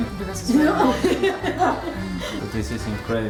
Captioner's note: laughs